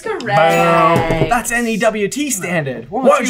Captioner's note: accented